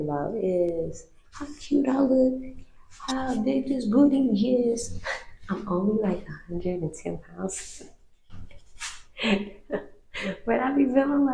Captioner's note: laughs